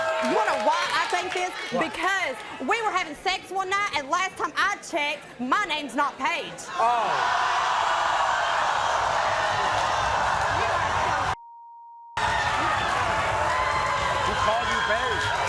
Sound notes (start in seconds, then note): 8.1 audience gasping; 11.4 beep